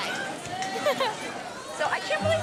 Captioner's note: laughs